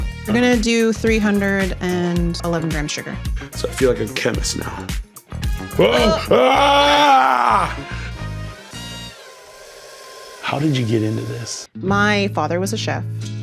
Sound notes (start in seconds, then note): 5.7 groans; 9.2 blender whirs